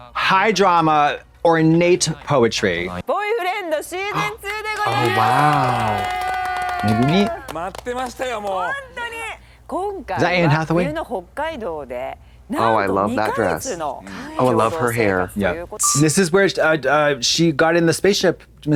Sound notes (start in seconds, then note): 4.1 blonde Women clap